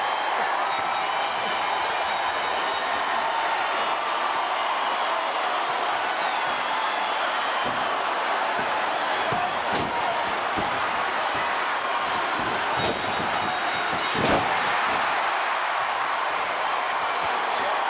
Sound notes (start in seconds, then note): 0.6 bell rings; 3.0 audience cheers; 12.7 bell rings; 15.0 audience cheers